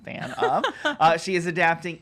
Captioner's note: laughs